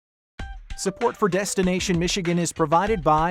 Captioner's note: voiceover